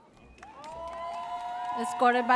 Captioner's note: audience cheers